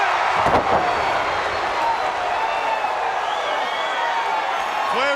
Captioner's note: crowd cheering; Ric thudding on ring